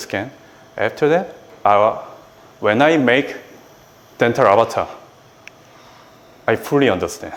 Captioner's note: snaps fingers